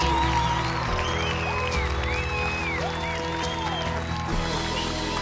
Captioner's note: clapping and cheering